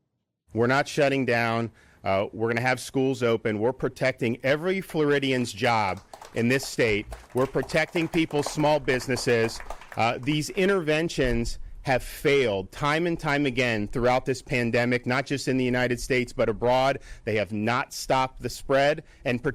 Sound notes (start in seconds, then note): 9.2 applause